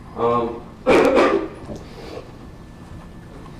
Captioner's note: coughing